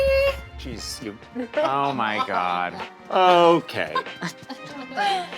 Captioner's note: laughs